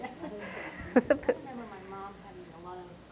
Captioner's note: audience laughter